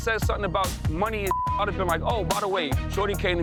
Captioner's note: beep